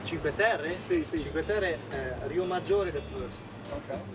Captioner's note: speaking in foreign language